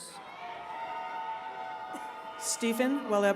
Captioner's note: attendees cheering